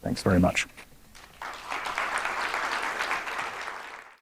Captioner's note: applause